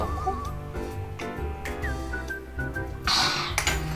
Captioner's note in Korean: 마시는 소리